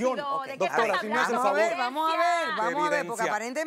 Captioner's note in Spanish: Hablan al unísono